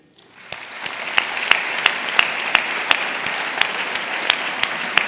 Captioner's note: audience applauding